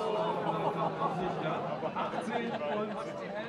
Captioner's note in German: Stimmengewirr, Kommentator